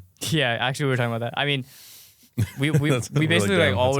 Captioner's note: laughs